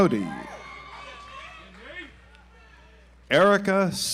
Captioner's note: audience applauds